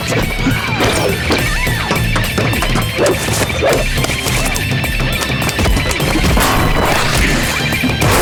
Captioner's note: fighting noises